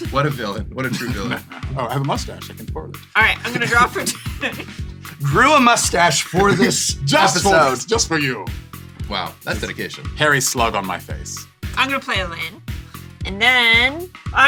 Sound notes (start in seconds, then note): 0.8 villainous laugh; 3.2 laughing